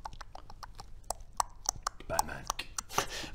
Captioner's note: thinking clicks; click click clickclick